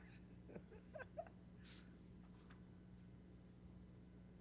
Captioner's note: laughter